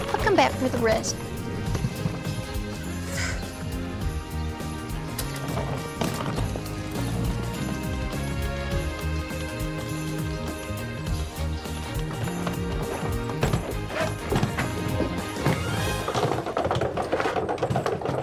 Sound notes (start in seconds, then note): 3.0 sighs; 15.7 rolling luggage